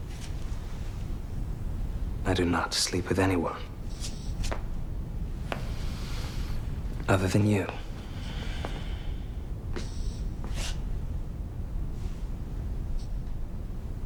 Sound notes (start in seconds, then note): none